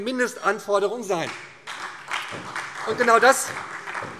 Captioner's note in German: Beifall SPD und DIE LINKE